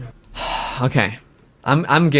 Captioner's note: sighs